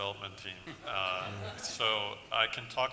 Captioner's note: laughter